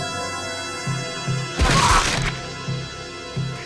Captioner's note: brutalised punching sound